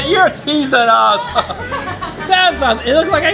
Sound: laughs

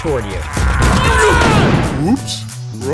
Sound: screaming

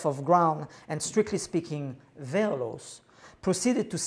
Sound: non-english

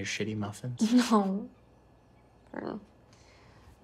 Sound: chuckles

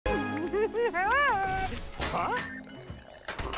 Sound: giggling

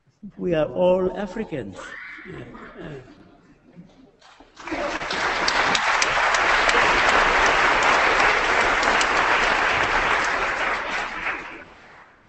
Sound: applause

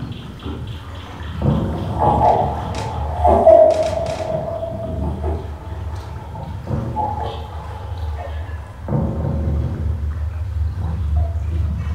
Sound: underwater thudding noises

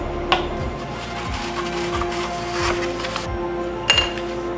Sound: sandpaper

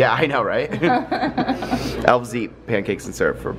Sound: giggles

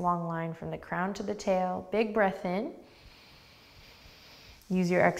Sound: deep breath

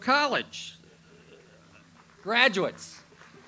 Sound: audience applauds

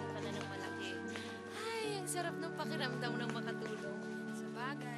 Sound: exhales

